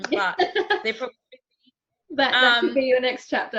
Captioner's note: laughing